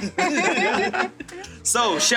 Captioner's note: all laugh